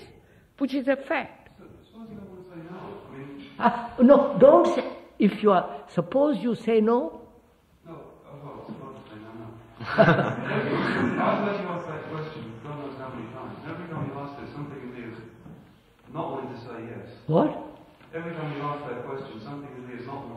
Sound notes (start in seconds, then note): 9.8 laughter